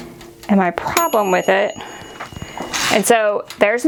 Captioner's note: oven dinging